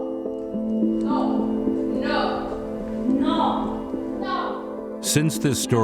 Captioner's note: women shouting "No!"